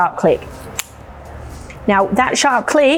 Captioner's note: shaft clicks